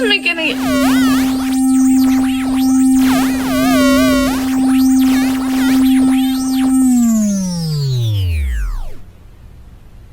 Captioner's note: beeping, powers down